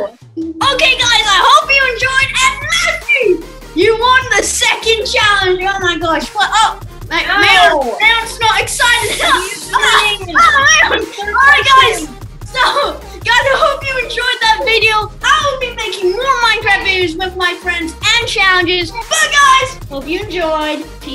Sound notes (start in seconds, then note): 9.0 laughs